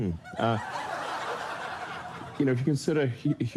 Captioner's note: studio audience laughs